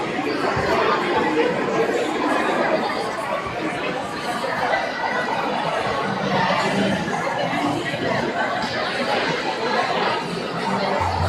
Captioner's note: crowd chattering